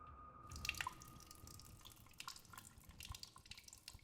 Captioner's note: urine pattering